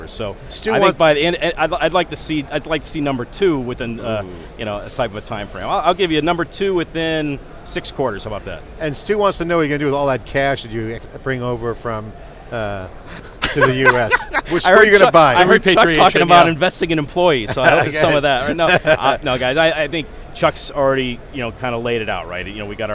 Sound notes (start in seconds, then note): 13.1 laughs